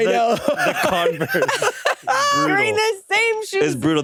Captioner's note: laugh